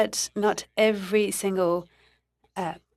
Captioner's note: speaking in French